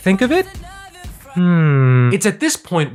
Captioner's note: hums